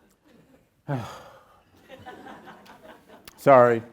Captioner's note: sighs; audience chuckles